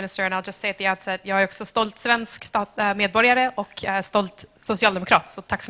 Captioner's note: speaking in foreign language